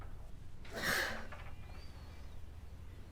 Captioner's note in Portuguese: Suspiro